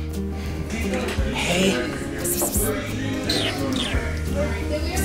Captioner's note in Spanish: Sonidos de besos; Charla de fondo